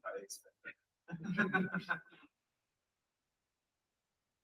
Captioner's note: laughter